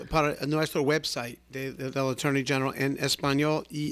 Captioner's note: Hablando ingl\s